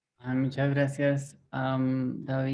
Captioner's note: speaks in foreign language